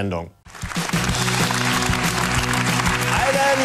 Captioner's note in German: Applaus, ruhige Gitarrenmusik